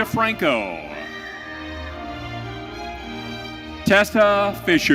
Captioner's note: audience cheering